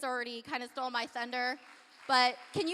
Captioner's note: applause